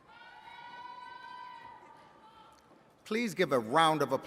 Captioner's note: attendees cheering